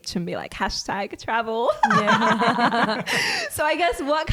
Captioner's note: laughs